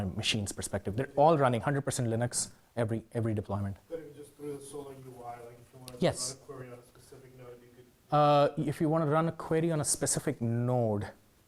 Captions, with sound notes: you know from my machine's perspective. They're all running 100 Linux, every deployment. (man speaking faintly off microphone) If you wanna run a query on a specific node.